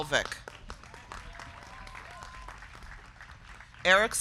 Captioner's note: crowd clapping; crowd cheering